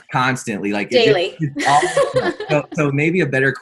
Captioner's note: laughs